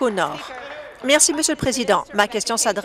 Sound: applause

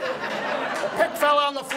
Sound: audience laughs

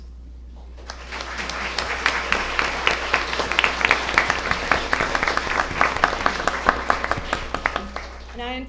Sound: applause

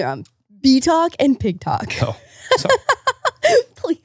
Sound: laughing

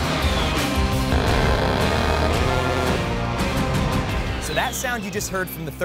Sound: gun buzzing

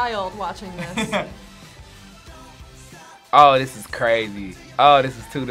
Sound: chuckles

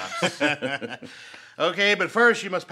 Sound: Gates and Travis laugh

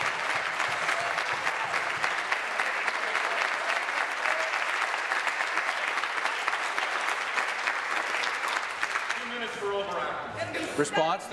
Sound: applause

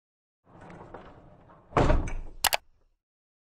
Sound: door rattling; door slamming; mouse clicking

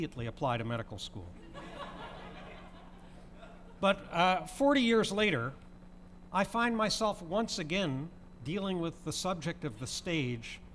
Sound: laughter

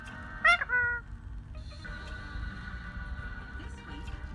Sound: bird coos

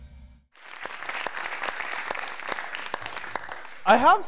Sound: audience applauding

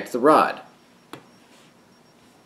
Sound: quiet pop

